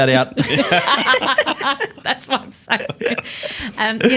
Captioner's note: laughs